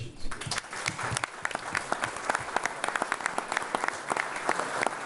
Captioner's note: all applauding